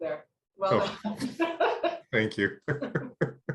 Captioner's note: laughing